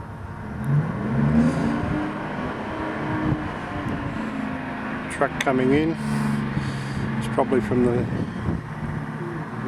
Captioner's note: sound of truck engine